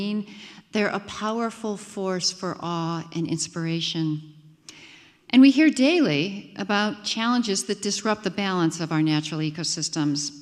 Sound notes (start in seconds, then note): none